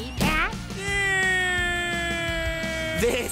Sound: cries in despair

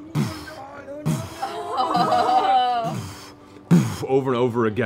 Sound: group groans

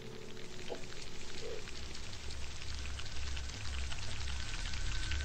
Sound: ominous scratching

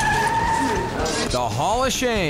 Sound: tires screeching

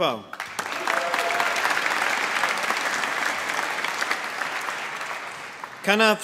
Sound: applause

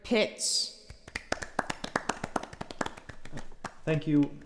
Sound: weak applause

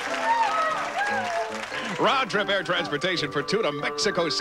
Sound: audience applauding

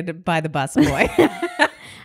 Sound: both laugh

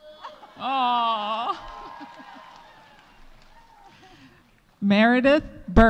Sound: audience cheering; audience applauding

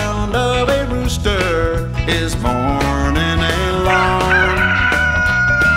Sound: cock-a-doodle-doo!

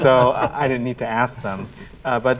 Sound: all laugh

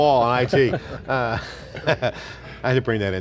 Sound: laughing

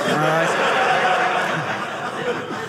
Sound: audience laughing

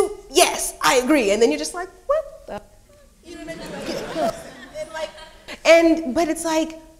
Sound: speaks faintly

